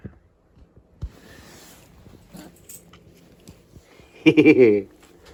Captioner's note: Ella laughs